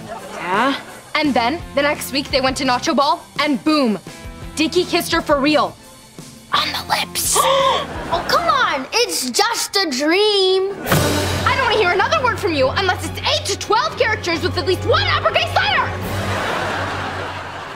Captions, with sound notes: Yeah? And then, the next week, they went to Nachoball and boom! Dicky kissed her for real... on the lips! [gasping] Oh, come on, it's just a dream! I don't wanna hear another word from you unless it's eight to twelve characters with at least one uppercase letter! [laughing]